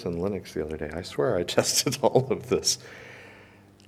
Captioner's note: chuckles